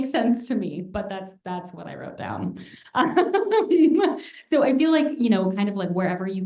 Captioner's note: laughter